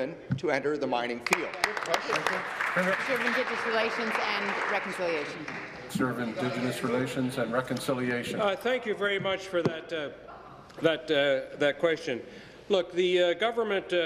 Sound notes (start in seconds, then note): 5.9 applause